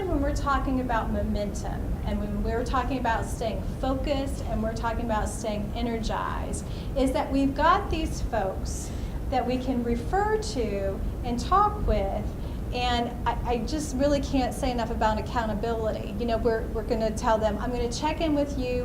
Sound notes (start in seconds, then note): none